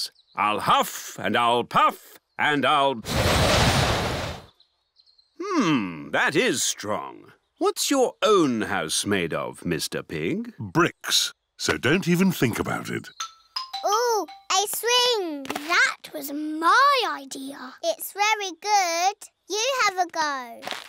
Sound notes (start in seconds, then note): 3.1 blows